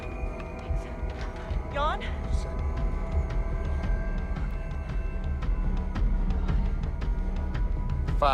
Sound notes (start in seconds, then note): 4.1 wind howling